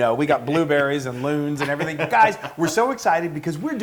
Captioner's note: laugh